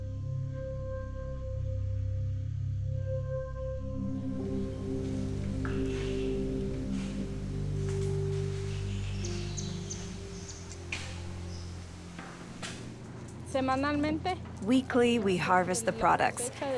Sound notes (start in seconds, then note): 8.8 birds chirping